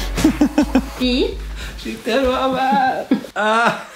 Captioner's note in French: rire